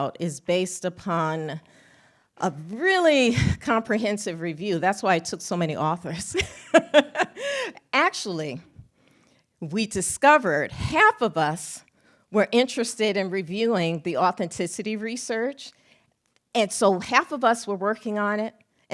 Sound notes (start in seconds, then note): 6.6 laughs